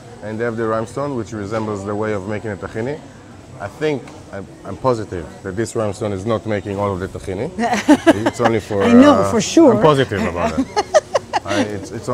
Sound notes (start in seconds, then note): 7.7 laughs